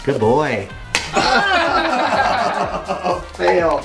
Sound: egg splats; group groans and laughs

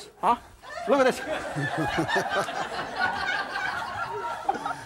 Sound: audience laughs

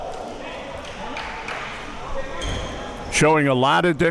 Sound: applause

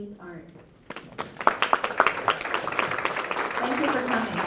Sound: audience applauds

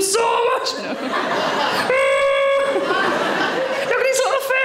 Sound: audience laughing; Sarah groaning

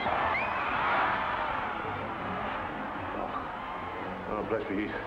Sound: crowd roars

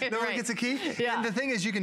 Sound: laughter

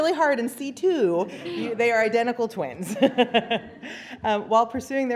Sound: laughter; laughter

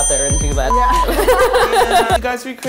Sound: laughter

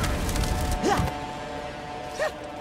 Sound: grunting

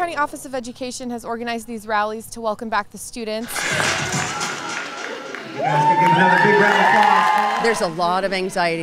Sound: cheers

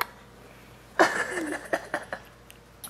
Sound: laughter

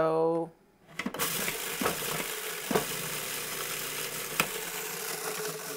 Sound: processor grinding

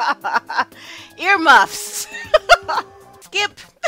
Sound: laughs; laughs

